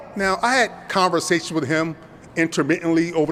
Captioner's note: none